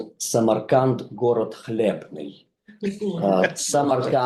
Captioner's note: speaks in foreign language